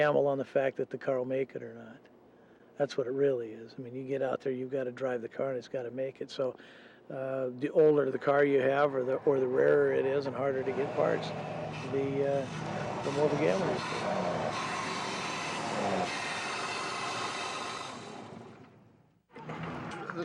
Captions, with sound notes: and gamble on the fact that the car will make it or not. That's what it really is. I mean you get out there, you gotta drive the car. It's gotta make it, so the older the car you have, or the rarer it is and harder to get parts, the more of a gamble. (metallic grinding)